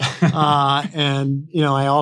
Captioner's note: laughs